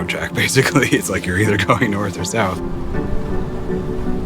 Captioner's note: laughs